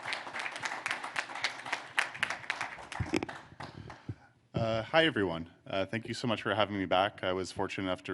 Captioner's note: applause